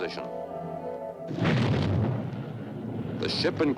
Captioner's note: rocket engine roaring